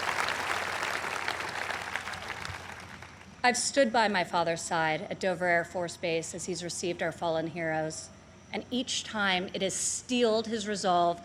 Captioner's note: applause